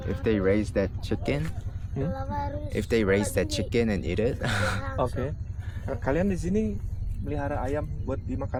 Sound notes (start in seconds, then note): 6.2 dialogue in Bahasa Indonesia